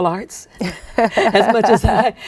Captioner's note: laughing